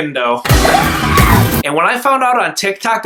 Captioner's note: dramatic music; tires screeching